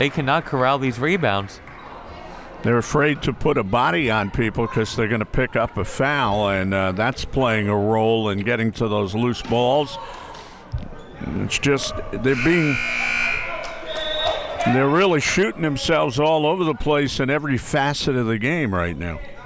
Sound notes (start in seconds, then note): 12.3 buzzer ringing; 12.3 whistle tweeting